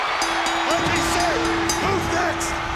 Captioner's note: bell dings